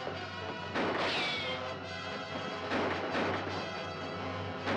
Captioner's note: guns firing